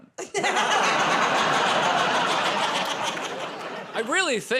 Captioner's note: laughter